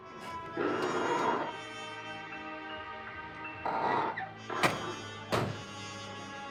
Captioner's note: car door creaks; dramatic music